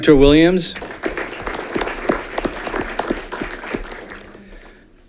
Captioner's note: audience clapping